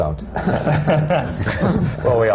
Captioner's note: laughter